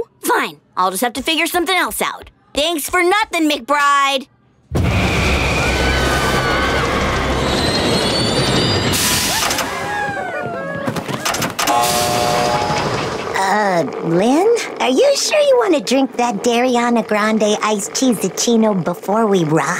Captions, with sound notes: Fine. I'll just have to figure something else out. Thanks for nothing, McBride! [screaming] Uh, Lynn, are you sure you want to drink that Dairy-ana Grande Iced Cheese-uccino before we ride?